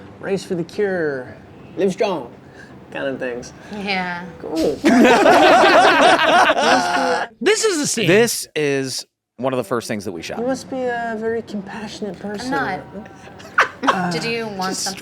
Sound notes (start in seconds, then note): 4.8 group laughs